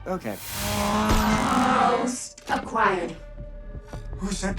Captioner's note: whirring